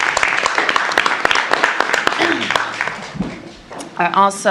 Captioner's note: applause